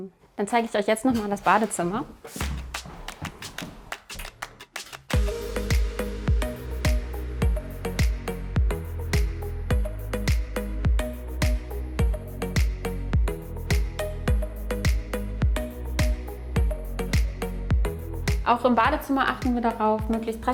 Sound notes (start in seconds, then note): 2.3 rhythmic clapping; 5.1 lively music